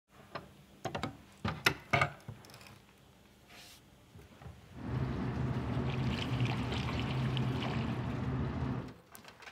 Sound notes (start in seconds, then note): 4.8 hissing , rippling water